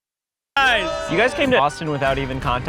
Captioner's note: cheering